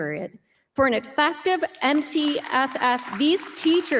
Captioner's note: audience applauding